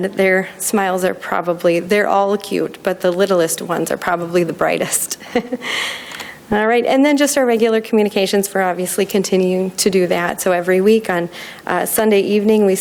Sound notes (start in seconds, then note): 5.2 laughing